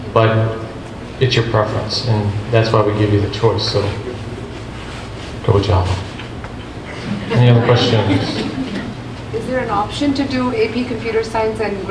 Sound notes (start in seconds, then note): 6.8 group laughs